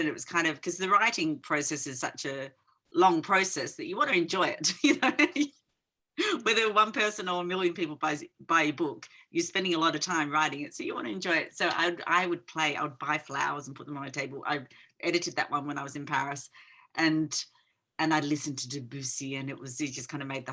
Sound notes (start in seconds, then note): 4.8 chuckling